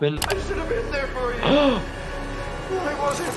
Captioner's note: person gasps